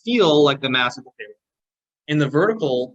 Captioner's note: audio distortion